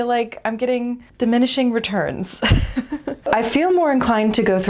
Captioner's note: laugh